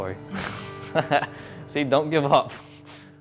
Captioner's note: laughs